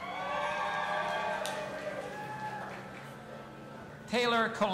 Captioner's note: audience applauding and cheering